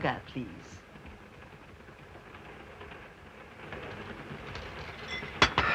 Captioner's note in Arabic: صوت خشخشة القطار; تنهدات تشارترز